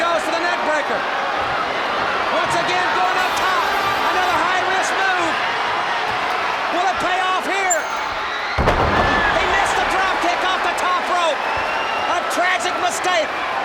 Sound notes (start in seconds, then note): 3.7 crowd cheering; 8.4 body thudding; 8.4 crowd clamoring